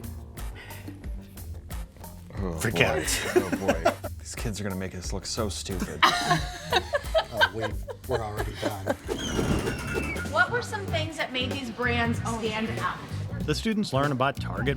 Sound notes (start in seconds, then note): 0.1 upbeat music; 5.8 laughs; 9.0 wheel screeches; 9.0 wind whooshes